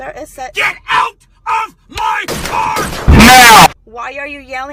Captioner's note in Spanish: distorción